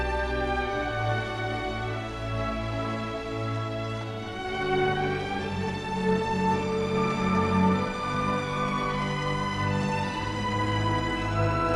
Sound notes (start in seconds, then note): none